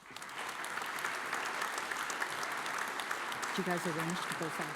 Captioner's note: audience applauds